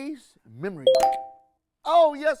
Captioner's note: beeping sound